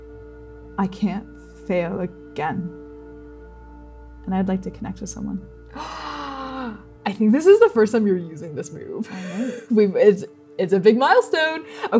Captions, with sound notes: I can't fail again. And I'd like to connect with someone. - [gasping] I think this is the first time you're using this move. [laughing] - I know. It's... it's a big milestone!